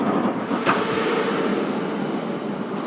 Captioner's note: opening doors